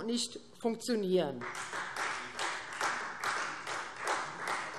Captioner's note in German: Beifall Freie Demokraten